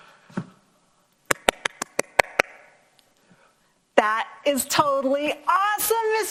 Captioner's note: clapping